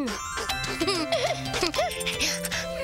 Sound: laughing

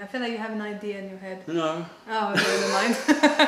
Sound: laughter

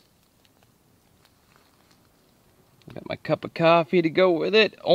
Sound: none

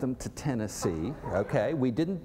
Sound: laughter

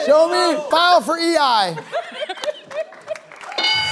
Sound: laughter

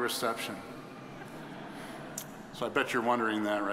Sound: audience chuckling

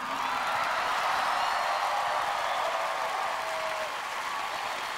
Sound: audience cheers

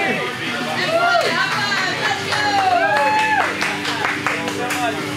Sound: crowd claps and cheers

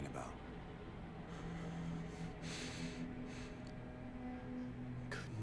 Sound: heavy breathing

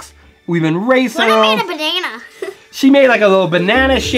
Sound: laughs

